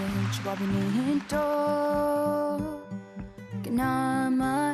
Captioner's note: cheers and applause